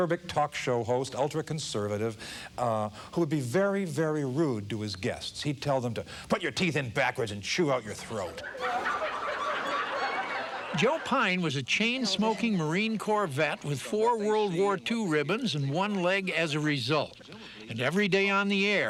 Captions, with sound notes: AN ACERBIC TALK SHOW HOST, ULTRA-CONSERVATIVE, WHO'D BE VERY, VERY RUDE TO HIS GUESTS. HE'D TELL THEM TO "PUT YOUR TEETH IN BACKWARDS AND CHEW OUT YOUR THROAT." [AUDIENCE LAUGHING] >> JOE PYNE WAS A CHAIN-SMOKING MARINE CORPS VET WITH 4 WORLD WAR II RIBBONS AND ONE LEG AS A RESULT. AND EVERY DAY ON THE